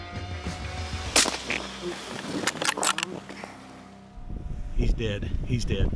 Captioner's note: upbeat country rock music; firing rifle